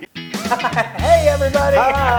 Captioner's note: laugh